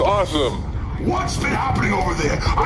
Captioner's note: shouting